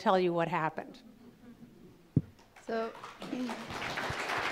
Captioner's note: applause